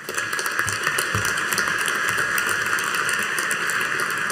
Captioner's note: audience applauding